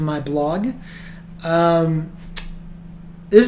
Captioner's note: lip smack... because why not?